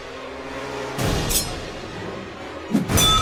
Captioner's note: knife snikt; knife swipe and clink